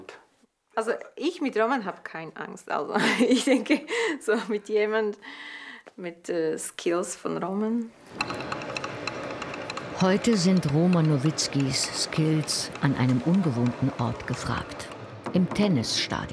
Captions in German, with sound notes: Also, ich mit Roman hab keine Angst. (lacht:) Also, ich denke, mit jemandem ... mit den Skills von Roman ... (Unstete, klappernde Klänge) Heute sind Roman Novitzkys Skills an einem ungewohnten Ort gefragt. Im Tennisstadion.